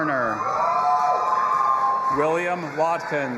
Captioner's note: audience applauding and cheering